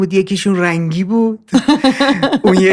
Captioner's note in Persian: خنده